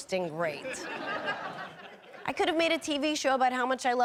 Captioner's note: audience laughing